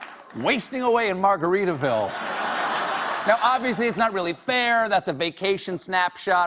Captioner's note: laughter